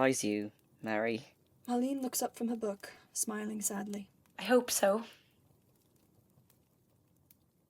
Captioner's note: fire fades